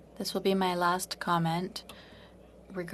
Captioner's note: speaking French